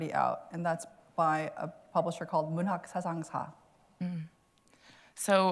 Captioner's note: korean